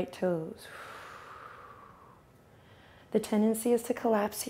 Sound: exhales

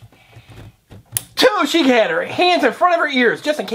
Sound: voiceover

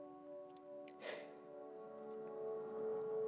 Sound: exhales

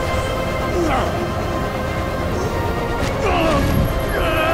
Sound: grunting

